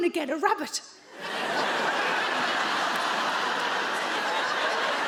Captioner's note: audience laughs